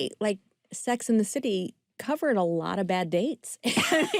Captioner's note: laughter